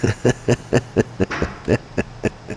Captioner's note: laughing